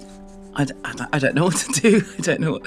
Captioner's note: laughing